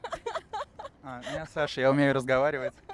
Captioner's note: laughter